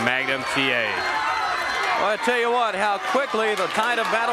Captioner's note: crowd cheering